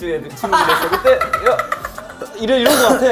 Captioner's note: cracking up